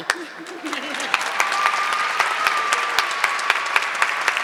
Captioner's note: audience clapping